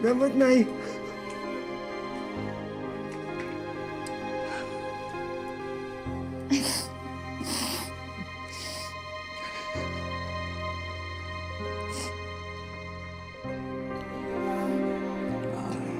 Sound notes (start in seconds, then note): 6.4 sobbing, sniffling; 8.9 sullen music continues